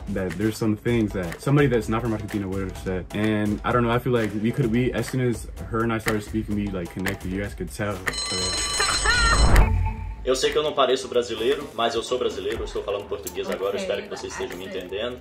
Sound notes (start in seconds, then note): 8.0 alarm rings; 8.7 laughs; 10.3 speaking in Portuguese